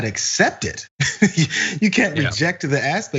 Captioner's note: laugh